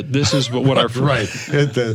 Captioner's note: overlapping laughter, conversation